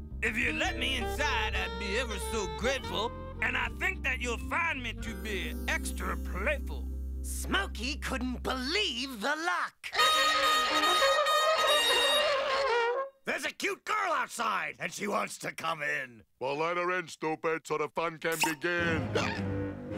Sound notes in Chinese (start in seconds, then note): 10.0 號角響起